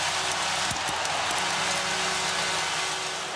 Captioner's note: air horn blows